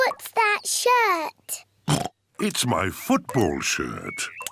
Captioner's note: oinks